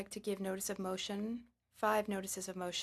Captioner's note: speaking French